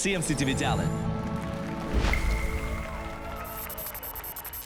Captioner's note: applause and cheers